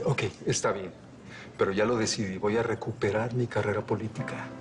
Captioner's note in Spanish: Tartamudeo